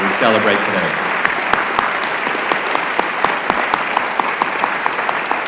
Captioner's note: applause